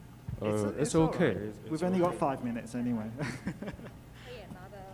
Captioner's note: laughs